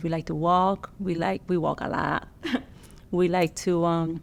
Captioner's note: laughs